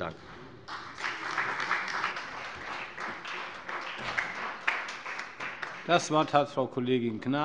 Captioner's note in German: Beifall bei der FDP